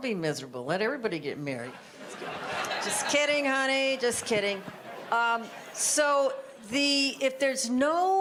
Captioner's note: audience laughter